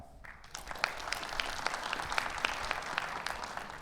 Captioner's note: audience applauds